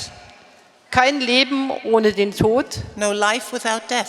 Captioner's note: speaking in German